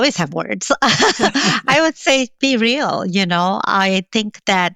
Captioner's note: laughs